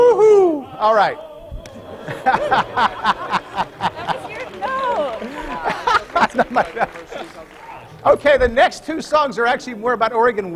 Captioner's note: laughter